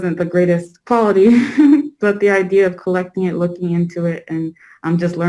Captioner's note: laughs